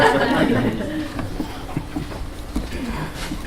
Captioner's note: laughter